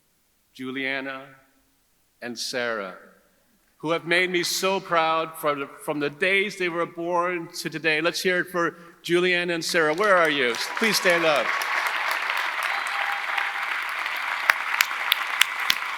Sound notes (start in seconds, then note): 9.6 audience cheering; 13.2 audience applauding